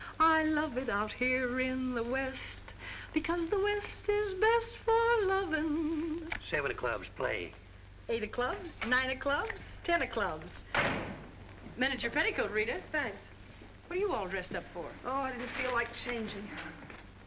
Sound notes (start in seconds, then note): 10.6 door slams